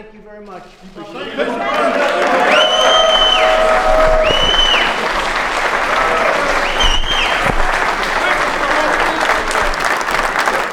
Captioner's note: applause